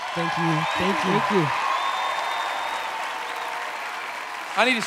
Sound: cheering

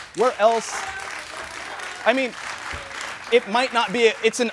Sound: audience cheers

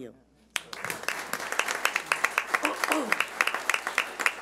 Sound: applause

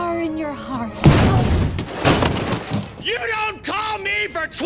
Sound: crashes

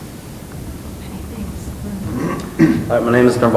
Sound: clearing throat

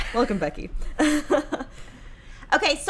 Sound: chuckles

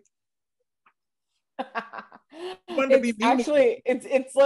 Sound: laughs

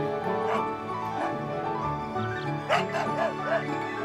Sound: dog barking

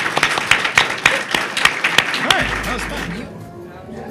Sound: applause

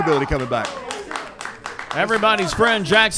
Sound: clapping

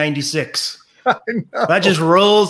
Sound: laughs

